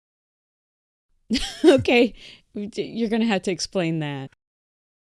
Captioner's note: laughs